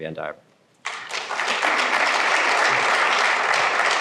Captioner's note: applause